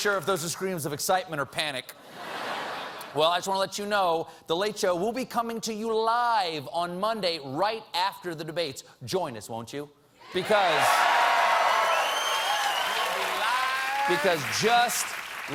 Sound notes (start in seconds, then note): 7.8 applause